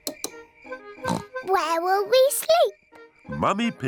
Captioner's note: oinks